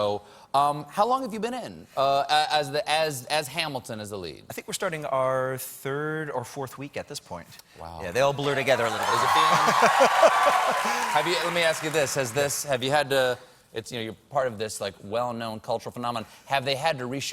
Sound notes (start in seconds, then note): 11.9 cheers and applause; 11.9 laughter